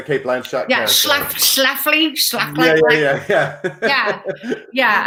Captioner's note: laughs